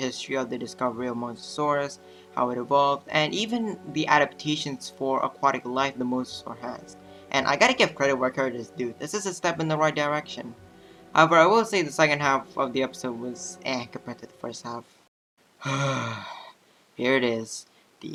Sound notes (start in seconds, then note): 15.6 exhale